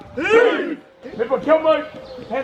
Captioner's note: group grunts